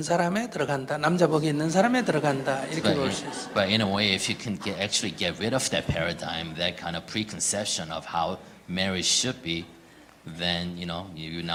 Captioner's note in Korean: 청중 웃음